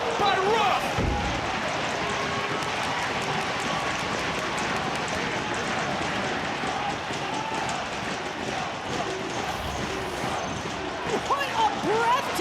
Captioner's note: audience cheering